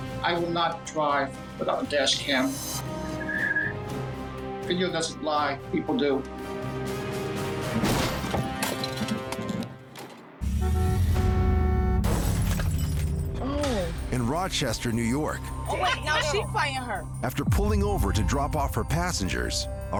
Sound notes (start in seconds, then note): 7.8 crunching thud; 10.4 car horn honks; 12.0 glass shatters